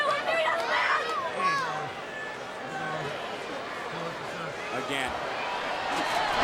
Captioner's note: applause